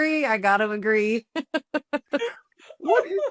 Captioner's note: laughs